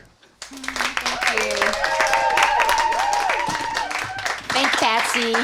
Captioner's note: audience applauding